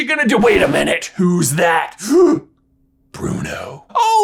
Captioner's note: gasps